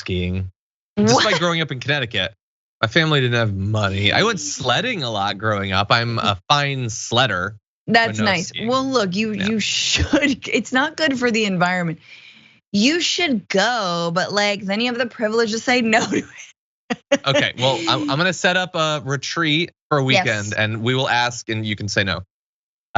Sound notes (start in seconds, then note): 17.0 laugh